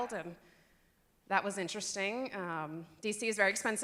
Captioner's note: none